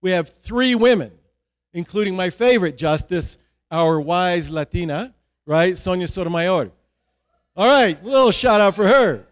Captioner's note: cheer